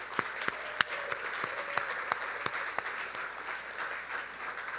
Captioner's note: audience applauding